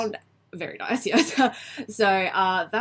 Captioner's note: laughs